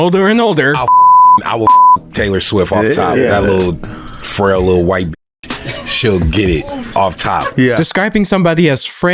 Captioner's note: beep